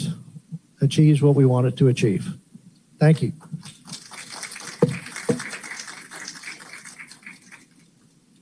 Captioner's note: applause